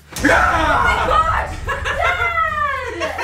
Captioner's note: laughing; yelling